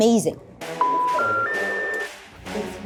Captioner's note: line beeps